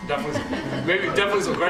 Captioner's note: laughter